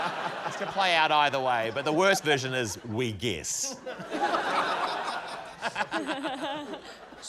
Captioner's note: laughter; laughter